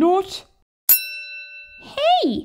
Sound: ding!

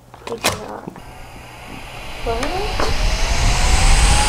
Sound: machine whirs

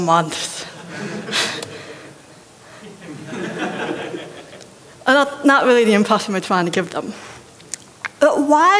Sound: laughter

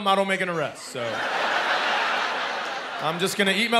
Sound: laughter

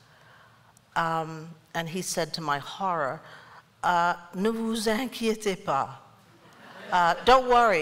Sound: speaking french

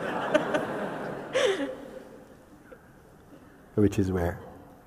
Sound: laughter

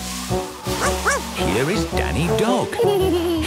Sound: barking; laughing

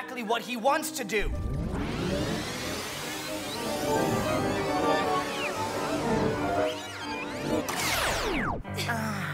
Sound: tape rewinding

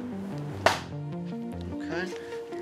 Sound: clap

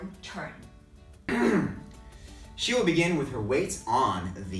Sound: clears throat

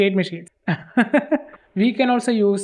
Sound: laughs in pain

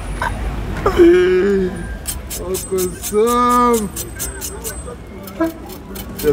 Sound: laughingly

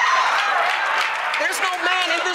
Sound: applause

